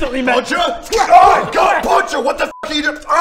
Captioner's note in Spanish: thwack thwack